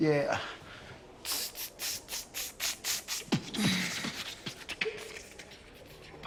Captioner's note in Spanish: Hace beatbox